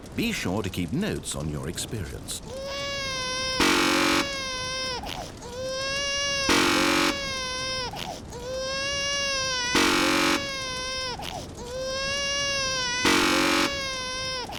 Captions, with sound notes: Be sure to keep notes on your experience. (crying) (buzzer) (buzzer) (buzzer) (buzzer)